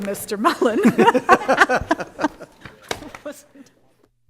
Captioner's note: laughing